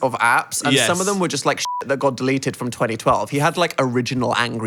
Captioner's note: beep